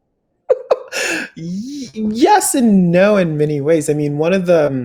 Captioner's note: laughs